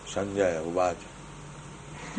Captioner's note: laughter